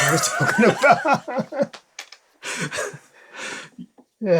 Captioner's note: laughter